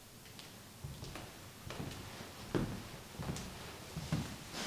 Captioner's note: footsteps approach